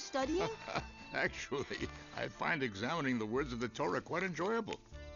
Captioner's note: laughs